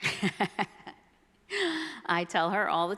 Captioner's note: laughs